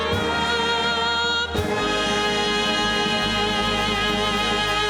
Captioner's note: applause